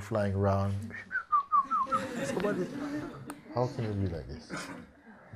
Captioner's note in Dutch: fluit